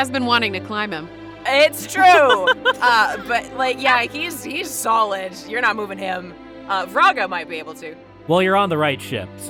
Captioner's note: laughs